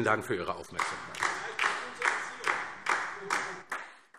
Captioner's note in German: Beifall DIE LINKE